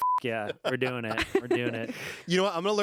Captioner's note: beep